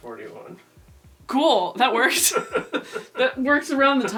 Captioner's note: laughs